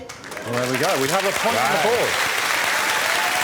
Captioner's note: applause